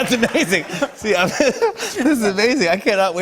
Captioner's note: laughs